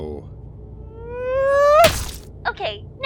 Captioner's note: incoming scream